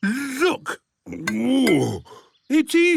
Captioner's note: grunts